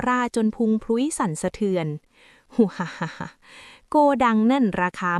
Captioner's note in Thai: เสียงหัวเราะ